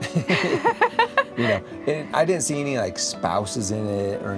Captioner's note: laughing